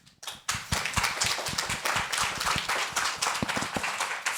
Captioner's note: all clapping